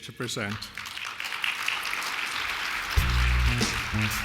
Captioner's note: applause